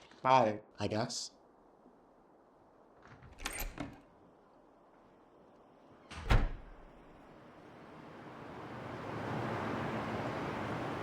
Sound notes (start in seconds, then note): 3.3 door squeaks; 6.8 traffic humming